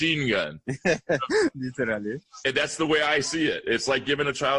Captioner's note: laughter